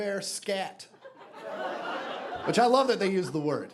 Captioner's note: audience laughing